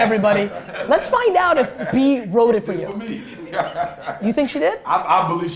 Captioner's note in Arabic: ضحك المجموعة